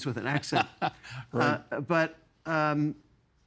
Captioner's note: chuckling